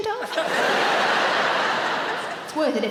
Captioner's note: audience laughing